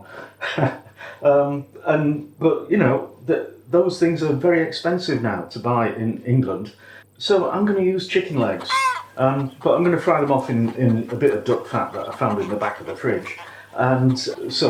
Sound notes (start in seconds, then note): 0.0 feeble laff; 8.4 cheep